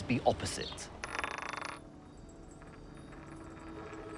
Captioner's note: coins clatter